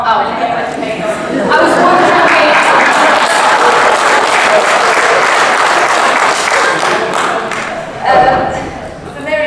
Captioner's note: audience laughs and applauds